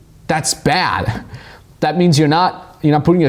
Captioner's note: laughs